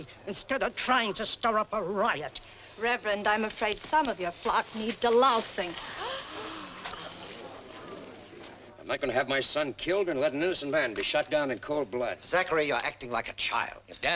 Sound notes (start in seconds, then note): 5.7 women gasping